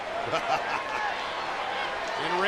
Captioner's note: laughs